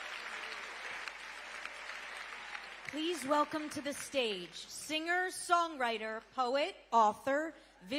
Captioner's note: cheering